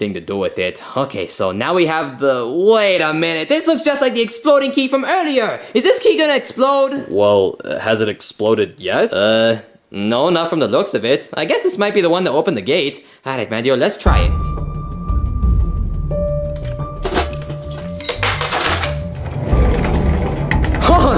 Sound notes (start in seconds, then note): 14.1 tense music; 16.5 keys jingle; 19.1 door rumbles softly